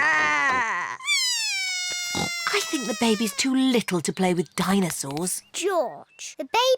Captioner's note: bawls